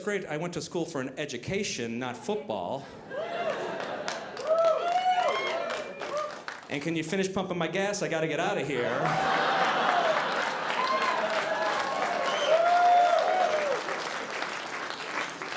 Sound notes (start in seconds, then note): 3.1 audience cheering; 8.8 audience cheering